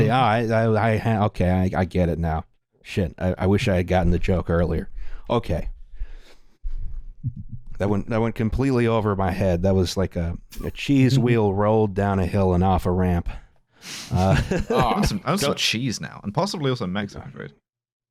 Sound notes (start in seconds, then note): 14.0 laughter